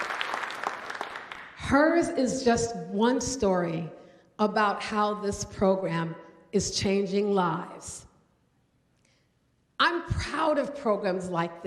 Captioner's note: applause